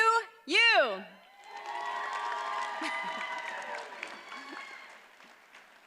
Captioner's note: audience cheers and applauds